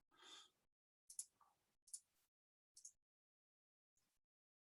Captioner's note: mouse clicking